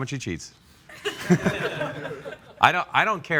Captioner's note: laughter